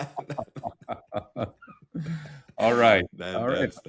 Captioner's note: both laughing